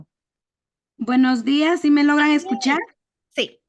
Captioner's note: speaking spanish